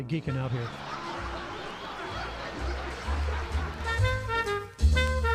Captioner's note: applause and laugh track; big band swing